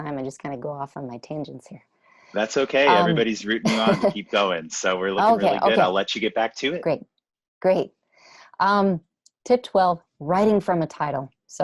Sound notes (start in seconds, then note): 2.4 laughter